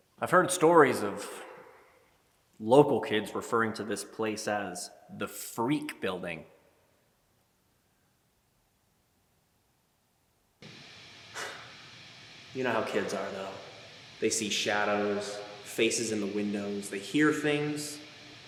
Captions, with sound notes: I've heard stories of local kids referring to this place as the freak building. (static hissing) (Jacob sighs) You know how kids are though? They see shadows, faces in the windows, they hear things.